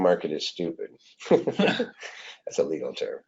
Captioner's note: laughs